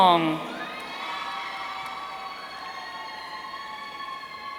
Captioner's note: audience cheering